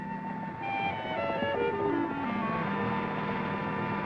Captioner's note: boat puttering